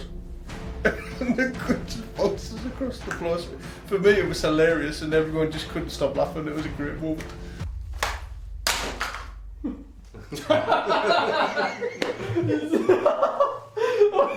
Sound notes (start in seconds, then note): 0.8 chuckles; 8.3 clanking; 10.1 laughter